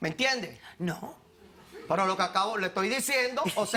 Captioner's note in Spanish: Risas